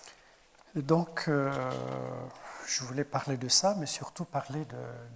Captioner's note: speaking in French